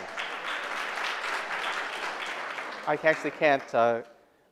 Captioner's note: applause